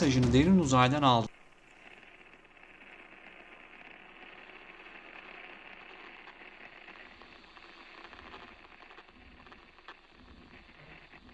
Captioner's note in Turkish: sinyal cızırtısı